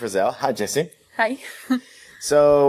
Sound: laughs

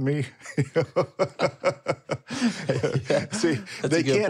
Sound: laughing

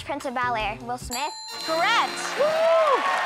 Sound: ding!

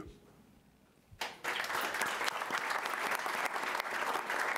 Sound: applause

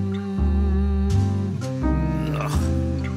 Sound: Michael humming tunefully

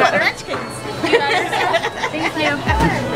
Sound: laughing

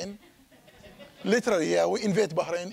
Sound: audience laughing

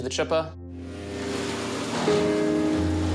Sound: chipper whirrs

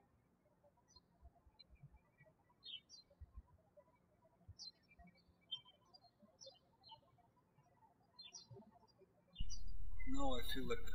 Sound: birds chirping

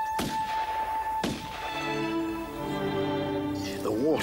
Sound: gun firing

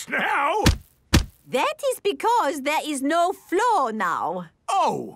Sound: thuds

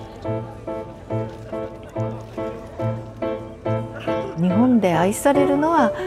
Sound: indistinct background chatter; steady piano music

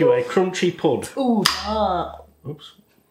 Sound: crack

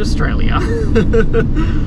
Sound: chuckles

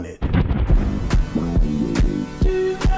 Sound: bomb exploding

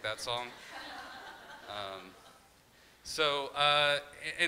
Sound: crowd laughing

